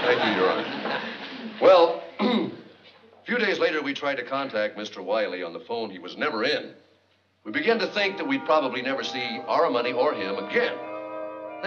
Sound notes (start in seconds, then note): 2.1 clears throat